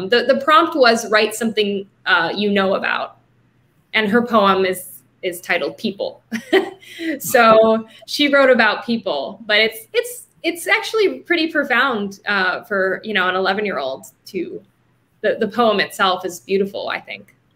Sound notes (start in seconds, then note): 6.3 laughing